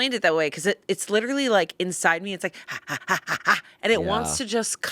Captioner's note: panting